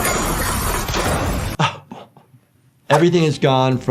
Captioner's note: metal crashing continues; train rustling; train rumbles